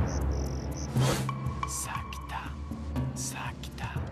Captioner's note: whispers